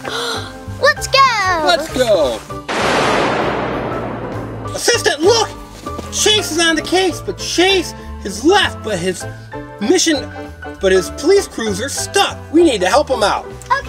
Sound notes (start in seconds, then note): 0.9 gasps; 2.7 thunder crashing